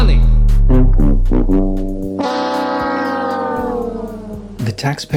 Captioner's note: Price Is Right, fail sound